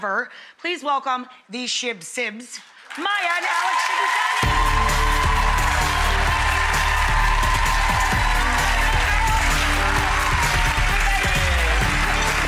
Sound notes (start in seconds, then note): 4.5 crowd cheering